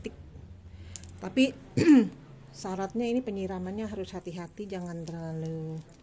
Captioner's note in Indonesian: berdehem